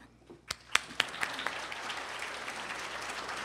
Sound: applause

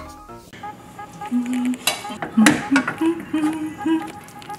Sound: humming

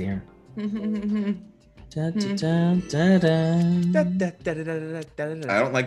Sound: laugh

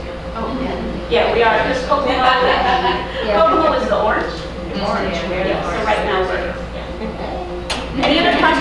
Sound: audience chatting in background

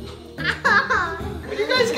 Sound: kids laughing

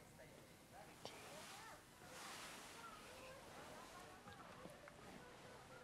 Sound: speaking in a foreign language

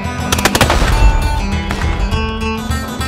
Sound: sound of firearms

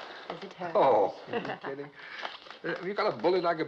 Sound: laughs

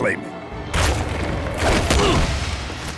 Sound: groaning

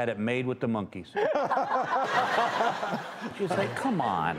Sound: laughter

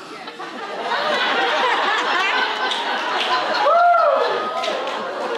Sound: audience laughs

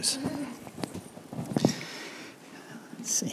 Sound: laughing

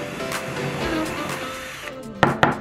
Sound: drill

